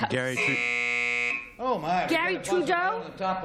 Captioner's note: buzz